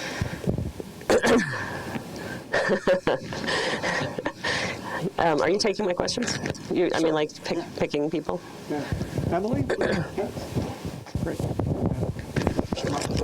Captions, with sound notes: (clears throat) (laughing) Are you taking my questions? I mean like picking people. - Yeah, Emily.